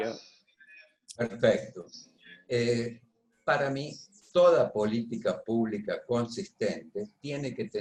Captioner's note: speaking spanish